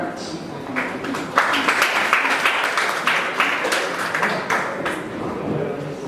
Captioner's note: applause